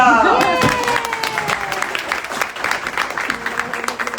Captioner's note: audience applause